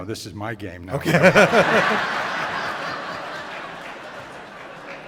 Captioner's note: laughter